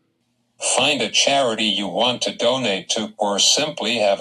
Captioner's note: voiceover